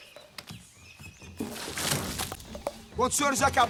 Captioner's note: food spilling on the floor